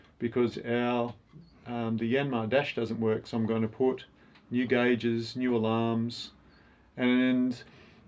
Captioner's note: none